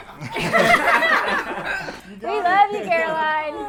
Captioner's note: all laugh